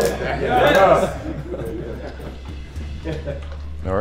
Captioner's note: laughs